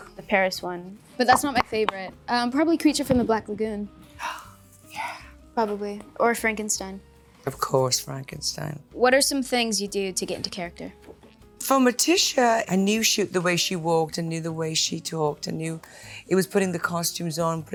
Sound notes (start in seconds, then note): 4.2 gasps